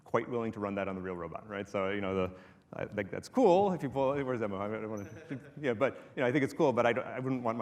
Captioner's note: laughter